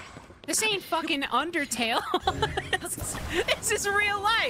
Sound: laughter

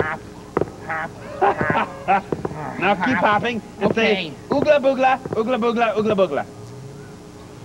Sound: laughs

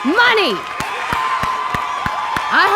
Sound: shouting and Applause

